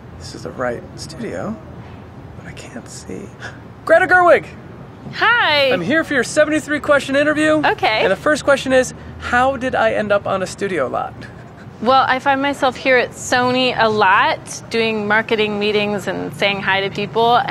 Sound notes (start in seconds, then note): 3.8 gasping